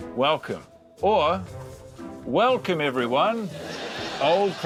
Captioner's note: laughter